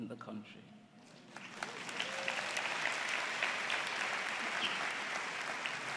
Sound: applause

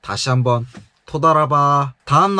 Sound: hebrew

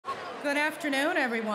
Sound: chatter

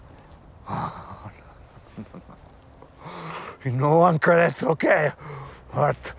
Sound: chuckling

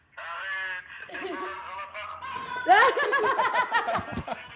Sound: bursts of laughter

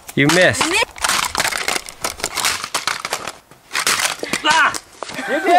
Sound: banging plastic

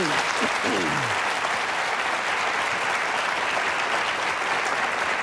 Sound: audience applauding

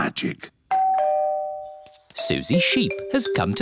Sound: doorbell

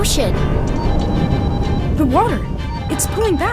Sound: thunder roaring, Ringing continues

